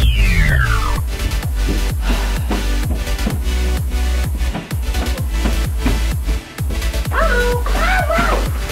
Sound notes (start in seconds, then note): 1.8 sighs